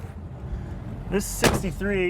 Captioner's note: engine revving